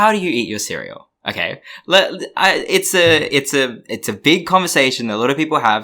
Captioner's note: stammers